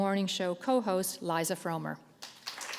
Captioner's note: applause